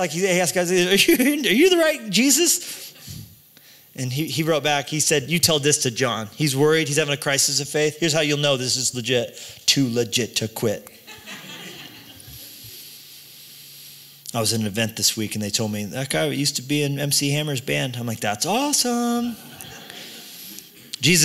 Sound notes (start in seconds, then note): 11.0 laughter